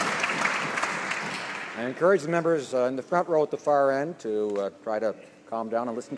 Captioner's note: some Applause